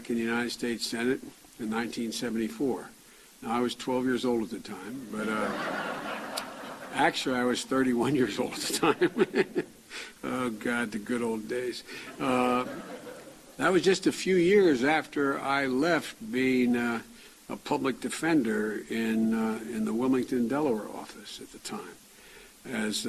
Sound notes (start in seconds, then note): 5.1 chuckling